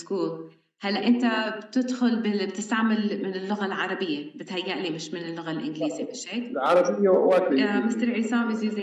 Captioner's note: speaking arabic